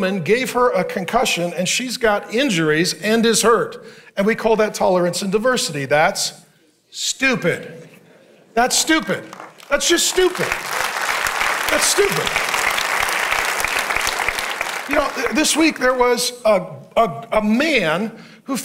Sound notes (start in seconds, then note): 9.2 congregant clapping; 10.7 congregation clapping; 13.0 congregation clapping